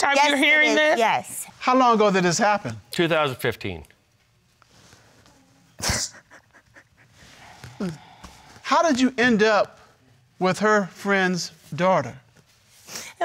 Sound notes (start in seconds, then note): 5.7 crying